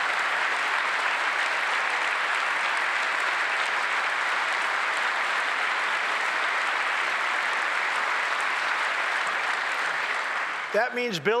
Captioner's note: applause